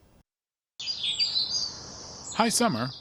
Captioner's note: birds chirping